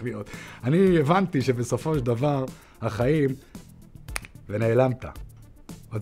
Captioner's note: snap